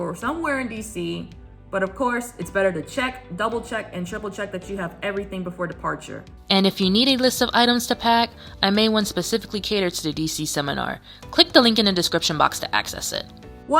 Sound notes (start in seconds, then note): 6.5 voiceover